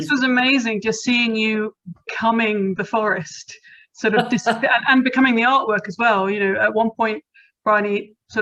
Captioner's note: laughing